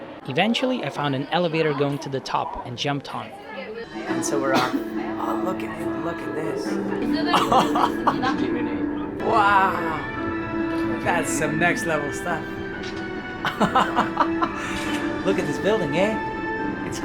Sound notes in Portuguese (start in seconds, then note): 7.1 risos